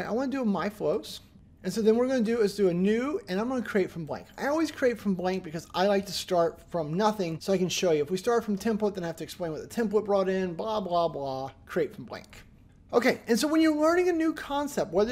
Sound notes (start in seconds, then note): none